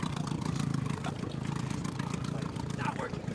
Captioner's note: chattering